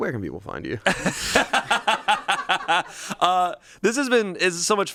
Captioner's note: everyone laughs